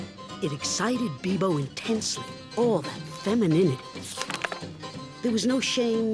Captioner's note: page turn